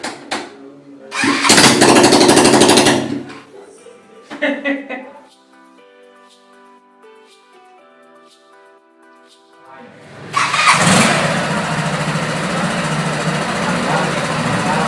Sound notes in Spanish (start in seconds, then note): 4.1 Risas; 8.3 jeje